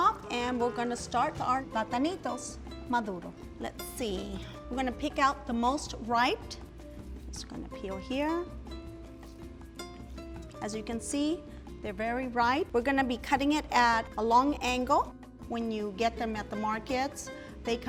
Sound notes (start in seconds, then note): 2.2 speaking in foreign language; 8.9 gentle music